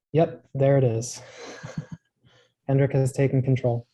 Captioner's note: chuckles